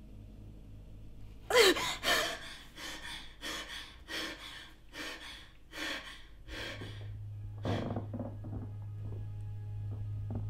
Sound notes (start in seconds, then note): 7.6 creaking floorboards